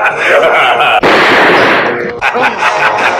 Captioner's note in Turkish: Silah sesi